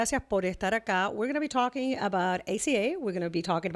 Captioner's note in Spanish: Hablando ingl\s